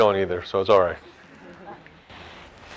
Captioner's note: laughs